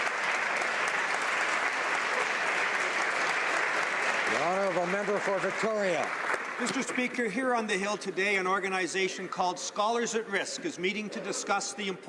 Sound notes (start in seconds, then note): 5.8 applause